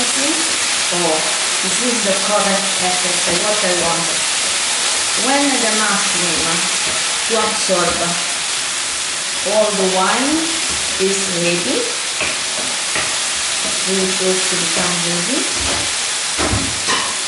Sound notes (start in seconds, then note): 3.6 i.e. the loud sizzling